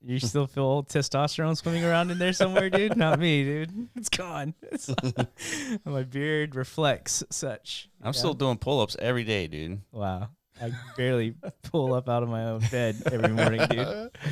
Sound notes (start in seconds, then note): 4.6 laughing